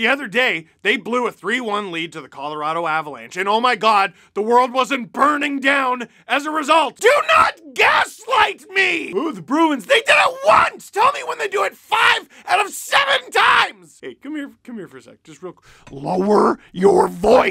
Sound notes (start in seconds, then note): none